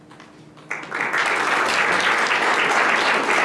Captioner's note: applause